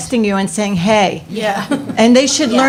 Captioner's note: laughs